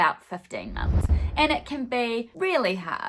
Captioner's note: swooshing